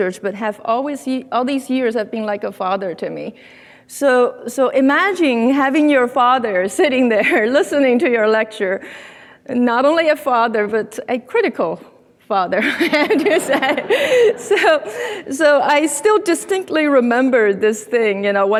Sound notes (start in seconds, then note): 12.6 laughs; 12.8 audience laughing